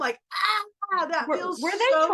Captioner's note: crying